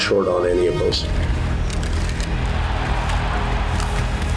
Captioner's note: crowd roaring